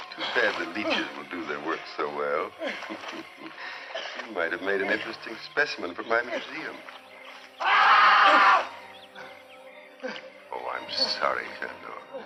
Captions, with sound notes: Too bad the leeches will do their work so well. You might have made an interesting specimen for my museum. [screaming] Oh, I'm sorry, Tendor.